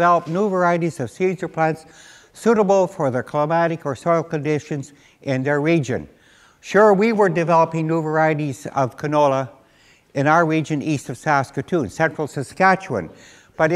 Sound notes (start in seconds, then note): none